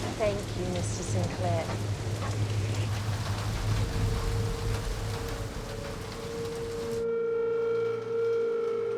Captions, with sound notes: - Thank you Mr. Sinclair. (rain pattering) (eerie music)